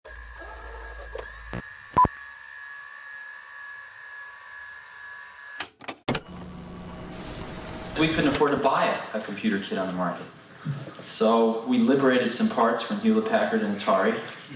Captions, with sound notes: (screen buzzes and whirs) (screen beeps) (screen clicks) - We couldn't afford to buy a computer kit on the market, so we liberated some parts from Hewlett-Packard and Atari